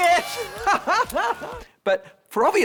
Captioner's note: laughing